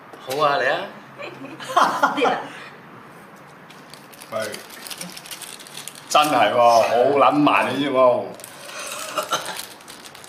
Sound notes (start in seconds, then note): 1.7 OR KIA laughs; 8.8 MONK coughs